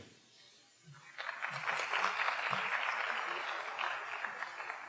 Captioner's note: audience applauding